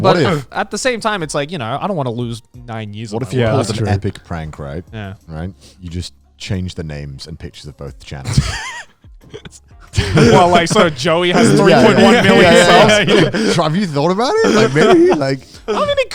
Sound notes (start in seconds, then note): 9.9 laughing; 11.9 speakers laughing